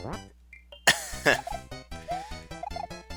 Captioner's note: laughs